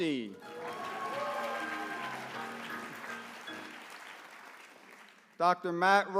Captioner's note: applause